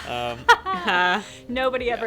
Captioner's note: laughs